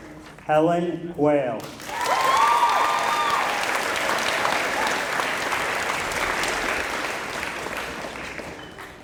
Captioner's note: applause